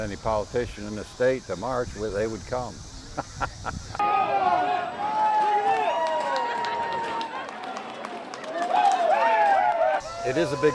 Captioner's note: marching and cheering